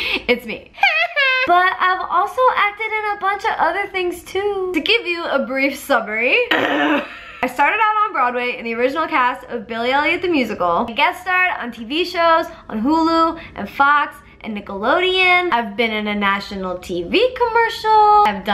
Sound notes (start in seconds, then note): 0.8 laughs; 6.5 clears throat